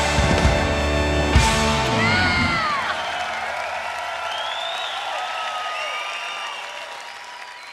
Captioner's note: rock song ends to applause and cheers